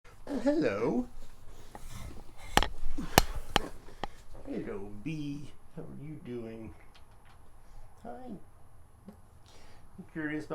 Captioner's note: laughs